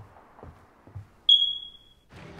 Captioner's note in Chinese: 煙霧警報器的啁啾聲